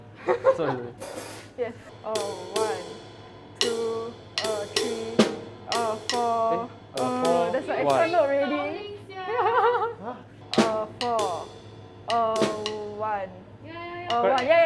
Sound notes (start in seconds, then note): 0.0 drum beat; 0.2 laughs; 4.9 drum beat; 9.2 laughs